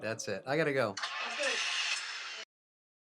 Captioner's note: phone plays ignition sound